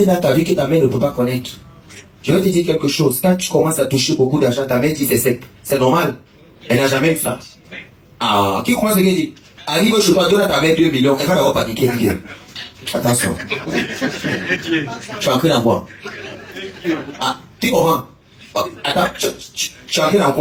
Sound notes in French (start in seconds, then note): 13.2 rires